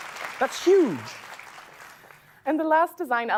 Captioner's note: applause